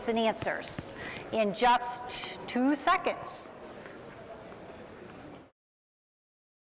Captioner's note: overlapping chattering